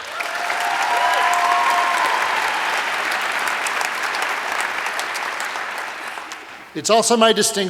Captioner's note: applause